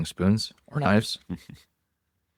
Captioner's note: laughs